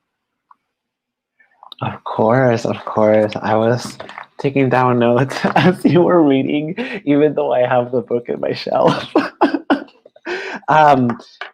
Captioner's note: laughs